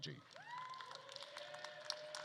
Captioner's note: attendees cheering and applauding